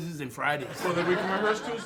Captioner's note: audience laughs